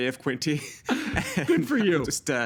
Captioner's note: laughing